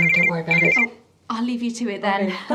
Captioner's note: phone rings